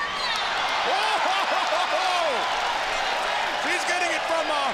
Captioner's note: laughs